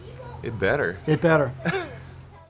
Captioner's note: chuckling